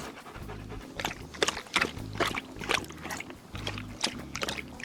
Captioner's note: dog lapping